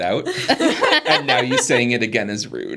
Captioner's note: participants laughing